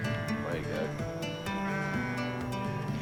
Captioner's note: sheep bleat